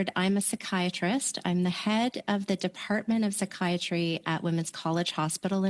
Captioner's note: speaking French